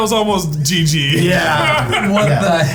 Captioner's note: laughing